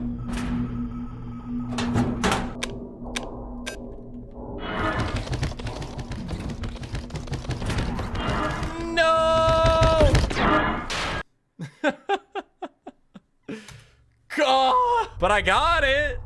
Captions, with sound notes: Noooo! (Laughs) Gahh! But I got it!